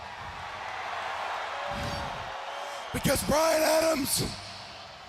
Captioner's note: crowd cheering